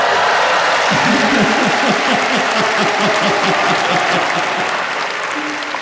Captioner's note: maniacal Laughter